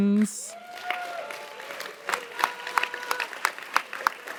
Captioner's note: audience applauds